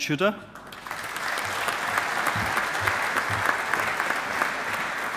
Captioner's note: audience applauding